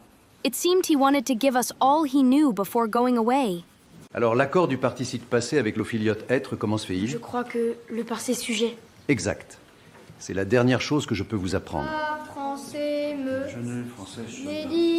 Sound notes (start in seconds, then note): 4.0 speaking in French; 11.8 reciting in French